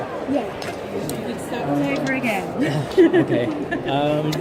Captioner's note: laughs